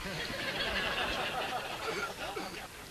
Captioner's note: yogis laugh too